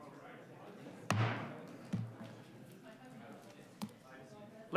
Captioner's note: gavel thuds